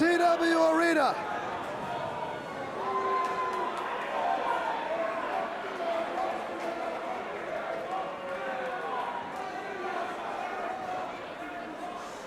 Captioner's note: crowd chatter